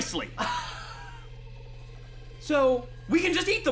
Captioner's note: chuckles